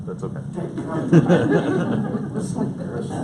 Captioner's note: audience laughs